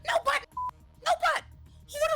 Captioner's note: beep